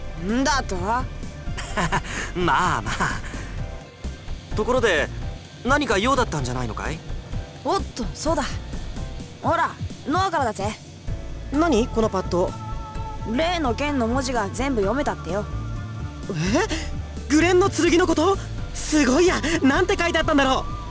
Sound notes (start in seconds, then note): 1.6 awkward laugh